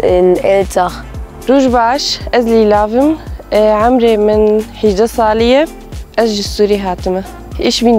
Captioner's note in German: stellt sich auf kurdisch vor